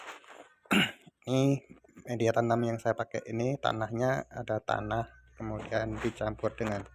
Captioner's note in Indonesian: berdehem